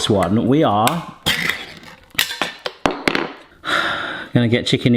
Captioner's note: can opening